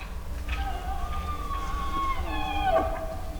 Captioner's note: bull bugling